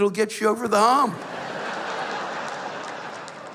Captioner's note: laughter